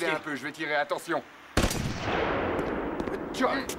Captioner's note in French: tirs d'armes à feu